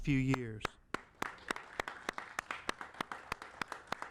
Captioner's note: applauding